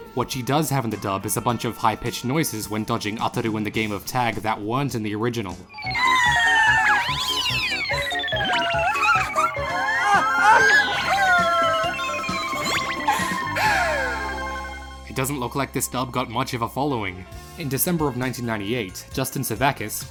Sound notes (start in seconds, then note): 5.7 high-pitch squealing